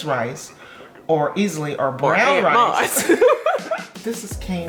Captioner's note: laughing; murmurs